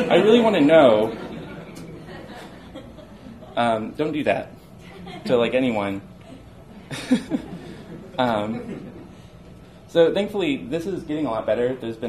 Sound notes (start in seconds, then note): 2.0 audience laughs